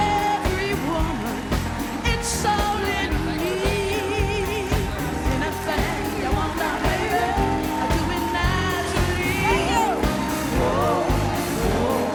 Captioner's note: band playing; cheers and applause